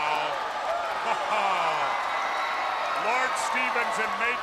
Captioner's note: crowd cheering